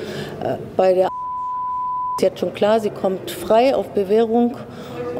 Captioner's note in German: Piepton